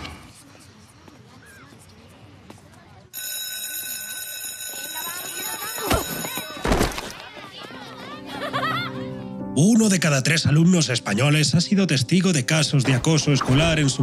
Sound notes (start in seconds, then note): 3.1 school bell; 7.1 laughter